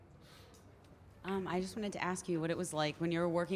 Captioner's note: voiceover